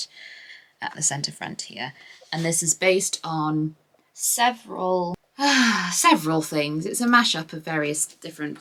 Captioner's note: sighs